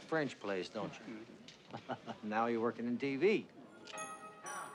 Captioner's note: laughs